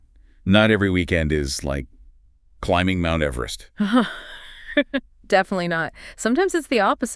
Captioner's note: laughs